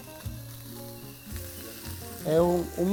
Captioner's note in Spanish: chisporroteo